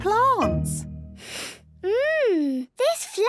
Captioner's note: sniffs